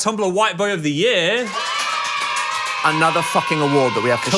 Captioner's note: children cheer